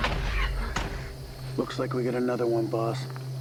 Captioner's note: dramatic music; insects chirping